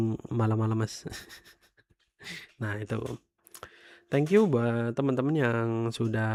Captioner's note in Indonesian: tertawa